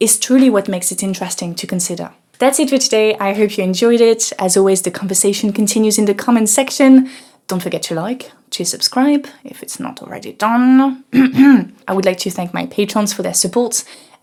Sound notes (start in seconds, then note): 11.1 clears throat